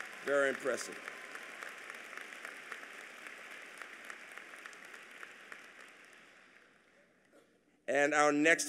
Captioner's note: applause